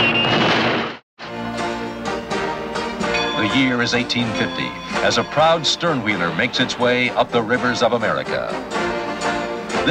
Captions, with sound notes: (riverboat bell ringing out) The year is 1850 as a proud stern wheeler makes its way up the rivers of America.